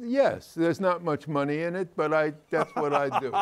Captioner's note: continues laughing; laughs